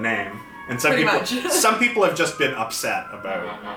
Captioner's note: laughs